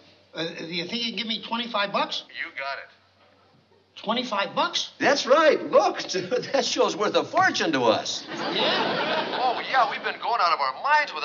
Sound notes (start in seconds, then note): 2.5 on phone; 8.9 on phone